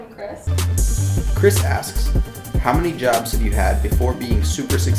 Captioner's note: voiceover